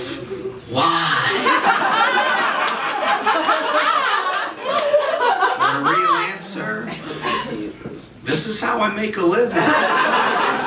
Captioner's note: audience Reaction; laughter; nervous laughter